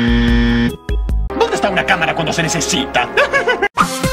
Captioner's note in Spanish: Risas